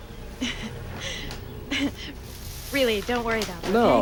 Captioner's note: Margaret laughing